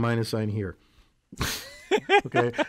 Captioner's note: laugh